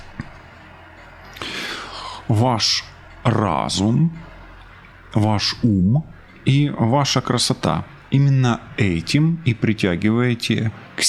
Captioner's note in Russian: вздыхает